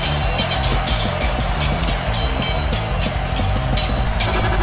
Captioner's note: swords clanging